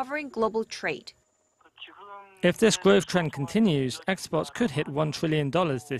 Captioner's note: Korean